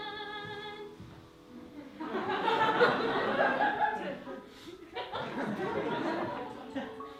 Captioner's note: laughter